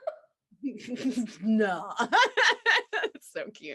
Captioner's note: laughs; both laughing